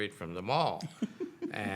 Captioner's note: laughing